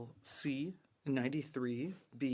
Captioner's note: speaking French